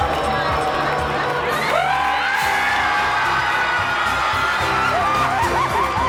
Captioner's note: Gritos e aplausos; trills